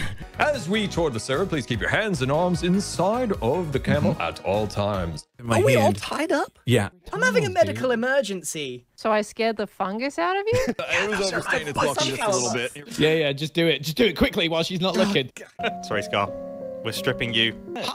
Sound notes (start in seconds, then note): 10.8 whispering